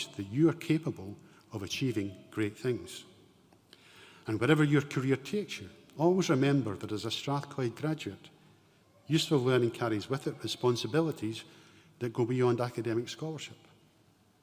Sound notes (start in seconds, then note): none